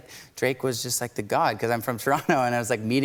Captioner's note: chuckling